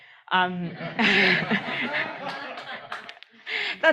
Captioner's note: audience laughing